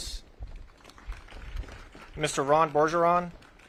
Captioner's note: audience claps